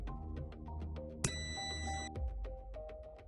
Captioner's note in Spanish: sonido: piiiii